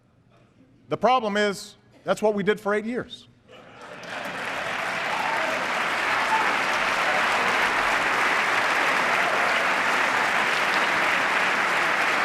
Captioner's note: applause